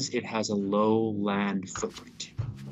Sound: transmission difficulty

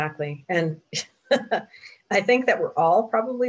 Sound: laughs

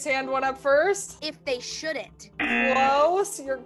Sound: buzzer

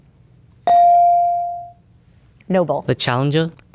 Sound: bell dinging

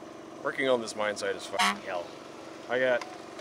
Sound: honk

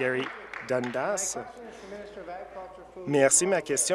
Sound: applause

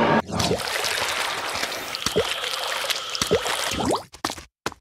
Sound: aggressive swimming noises

